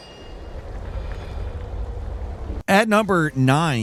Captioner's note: wind blowing